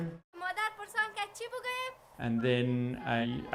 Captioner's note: teacher speaking Afghan language